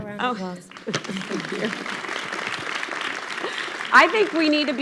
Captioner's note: audience clapping